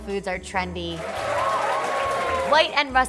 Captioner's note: cheering